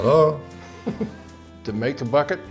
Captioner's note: laughs